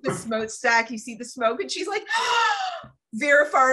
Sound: gasp

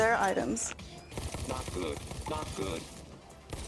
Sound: gun shooting

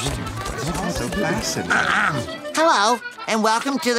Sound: clearing throat

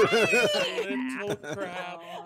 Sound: laughing

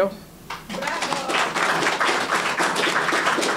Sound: applause

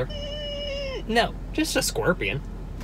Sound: screeches

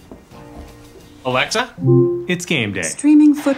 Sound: Alexa chimes

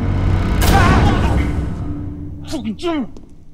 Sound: manager screams

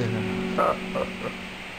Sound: laughing

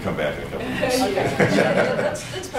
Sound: laughter

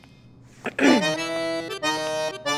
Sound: clears throat

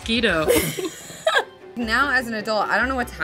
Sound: laughs

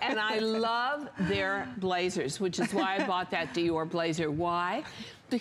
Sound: laughter; laughter

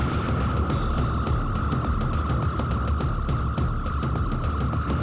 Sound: pulsating sound

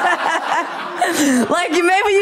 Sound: laughter

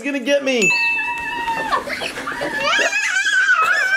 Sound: squealing

